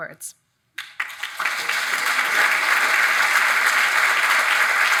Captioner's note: audience applauds